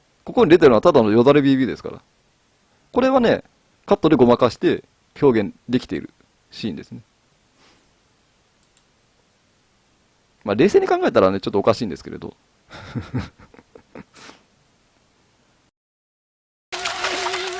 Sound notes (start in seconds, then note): 12.7 laughs